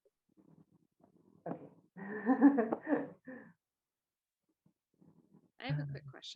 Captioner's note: laughs